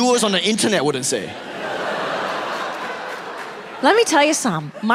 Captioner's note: audience laughing